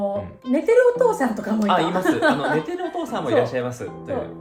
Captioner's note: laughs